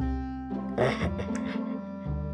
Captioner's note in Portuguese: Risos